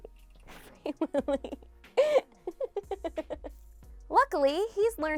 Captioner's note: laughing